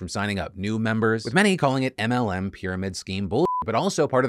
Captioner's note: beeps